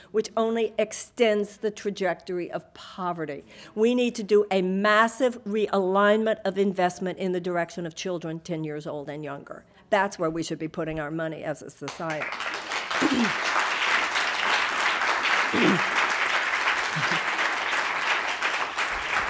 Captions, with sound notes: which only extends the trajectory of poverty. We need to do a massive realignment of investment in the direction of children 10 years old and younger. That's where we should be putting our money as a society. (audience applauding)